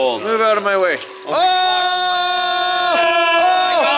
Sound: everyone shouts

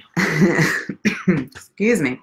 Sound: laughs, clears throat

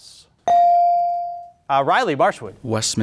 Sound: beep

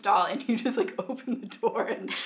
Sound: laughing

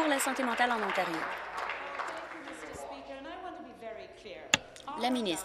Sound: applause

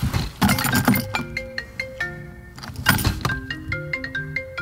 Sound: phone rings

